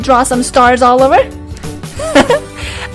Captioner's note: laugh